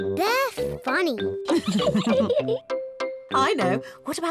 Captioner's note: laughs